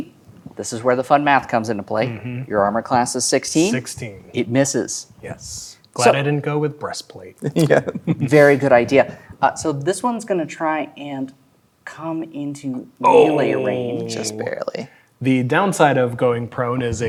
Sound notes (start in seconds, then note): 7.5 laughing